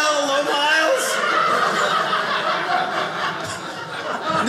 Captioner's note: audience laughing